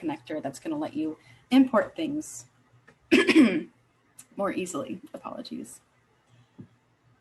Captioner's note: coughing